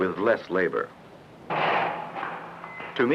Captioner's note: banging